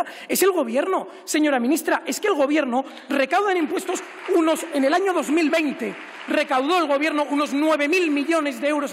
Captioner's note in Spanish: Aplausos